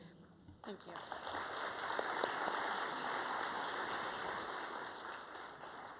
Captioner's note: applause